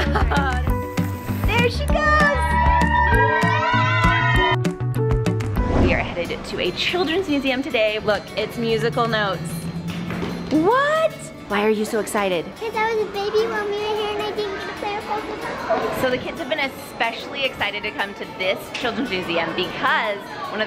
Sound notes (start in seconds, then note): 1.9 group cheering